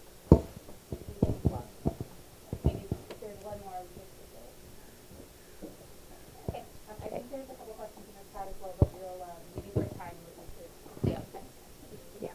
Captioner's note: indistinct conversation